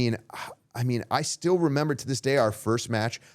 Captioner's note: sighing